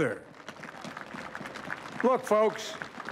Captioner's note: applause